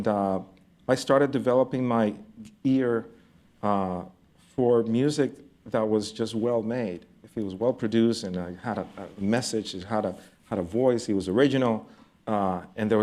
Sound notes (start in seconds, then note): none